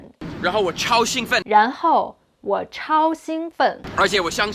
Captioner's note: speaking in Mandarin